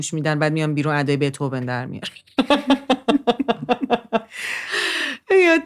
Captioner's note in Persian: خنده